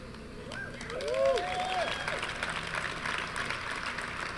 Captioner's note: applause, cheering